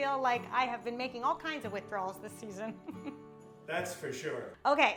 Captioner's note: laughs